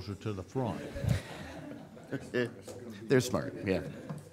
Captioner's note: audience laughing